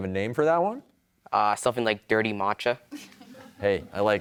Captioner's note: laughter